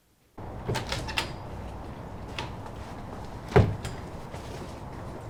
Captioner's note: door opening and closing